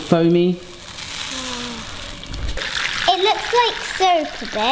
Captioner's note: butter sizzles